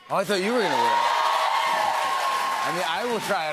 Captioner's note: cheers and applause